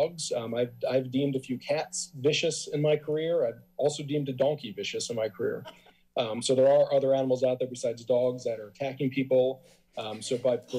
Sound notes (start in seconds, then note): 5.3 laughs